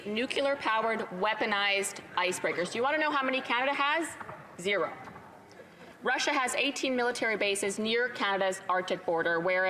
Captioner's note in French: voix de l'interprète